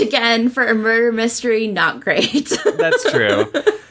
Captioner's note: laughs